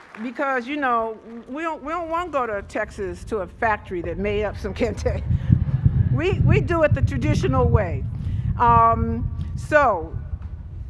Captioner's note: applause